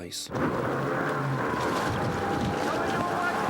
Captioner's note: engine rumbling